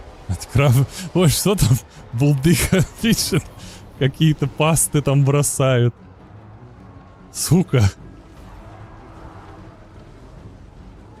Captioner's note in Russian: смех